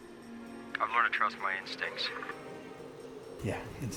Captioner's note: radio